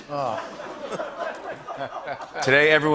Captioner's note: light laughter